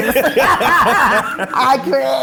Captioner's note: laughing